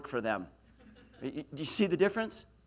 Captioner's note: laughs